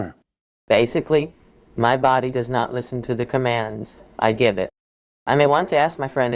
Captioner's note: through A.I. voice